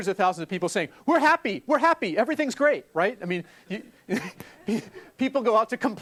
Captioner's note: laugh